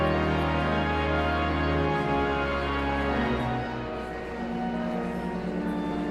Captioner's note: pensive organ music continues; audience chattering continues